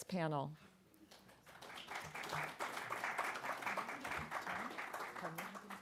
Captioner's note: applause